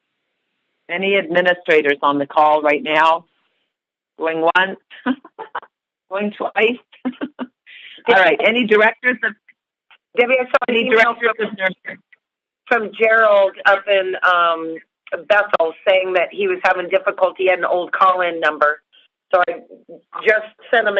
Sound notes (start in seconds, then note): 0.0 silence; 5.7 chuckle